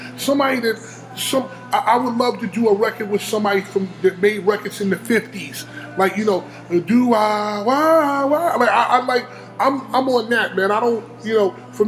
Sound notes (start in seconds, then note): 6.8 humming fifties music